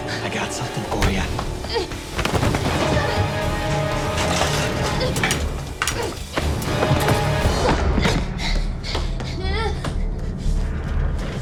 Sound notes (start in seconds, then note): 3.9 clattering; 9.1 heavy breathing